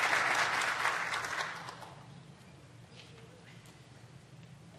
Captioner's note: applause